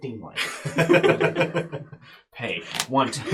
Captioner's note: all laugh